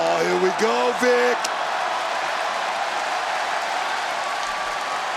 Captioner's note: crowd cheers